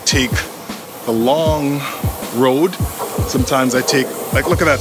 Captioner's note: train whirs